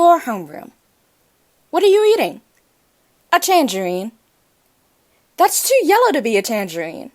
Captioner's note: voice over, monotone